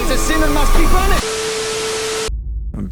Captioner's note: static noise